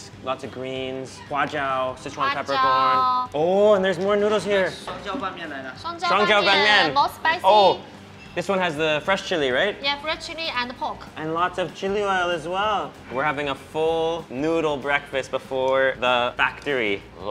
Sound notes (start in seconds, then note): 1.1 speaking Mandarin; 5.2 all speak Mandarin